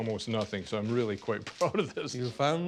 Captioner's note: laughs